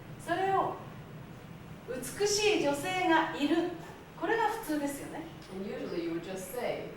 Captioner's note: speaking Japanes